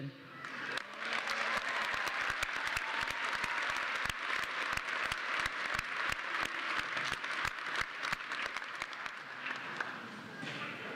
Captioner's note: applause